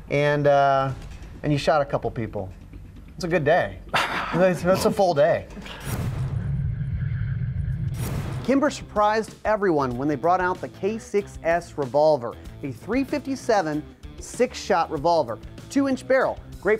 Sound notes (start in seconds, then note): 5.7 deep foreboding sound